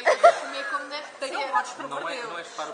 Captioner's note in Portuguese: Risos